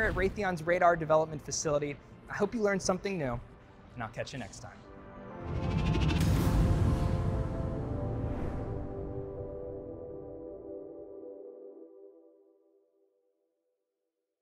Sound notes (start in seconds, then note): 5.1 upbeat music; 5.4 logo vibrating